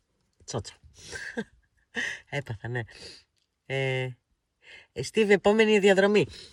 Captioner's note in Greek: χαχανίζει; γέλια